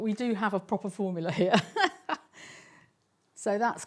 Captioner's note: laughs